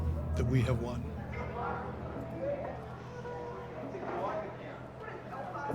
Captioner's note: people chattering